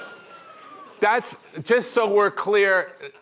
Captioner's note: laughter